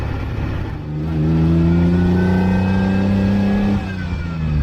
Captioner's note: engine rpm grow in uphill driving